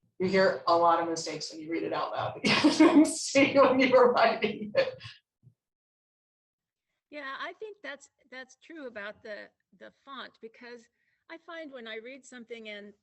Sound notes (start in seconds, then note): 2.8 laughs